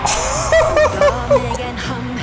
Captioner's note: more excited monkey sounds